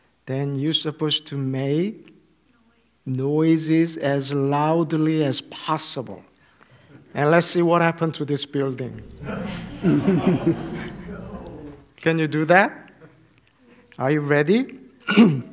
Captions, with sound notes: Then you are supposed to make noises as loudly as possible. And let's see what happens to this building. [laughter] Can you do that? Are you ready?